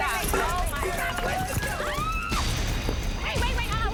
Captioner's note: screams